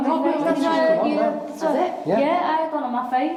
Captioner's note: all chattering